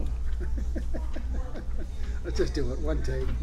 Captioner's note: laughs